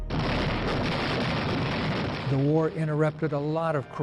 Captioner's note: guns firing